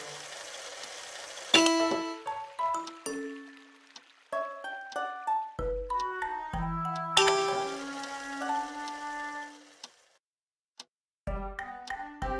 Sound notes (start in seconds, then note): 1.5 clock sound; 1.5 piano sound; 7.1 piano sound; 7.2 tap sound; 7.8 clock sound; 11.7 clock sound